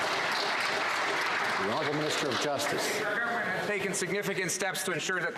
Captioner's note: some Applause